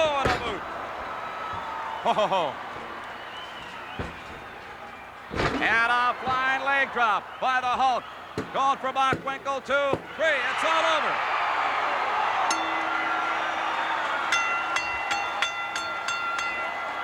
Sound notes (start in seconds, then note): 12.4 bell rings